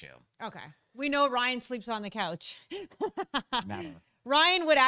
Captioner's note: laughing